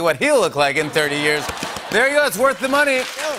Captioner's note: laughter and applause